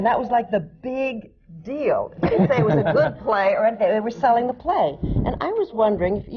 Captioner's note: laughter